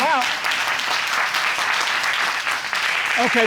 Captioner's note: audience clapping